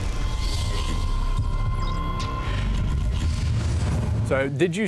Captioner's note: machine whirs